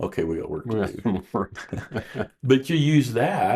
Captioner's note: both chuckling